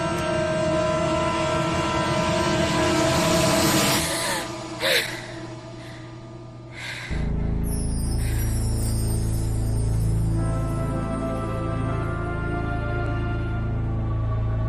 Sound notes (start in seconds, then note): 4.1 gasps